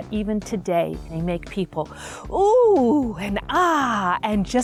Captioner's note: gasp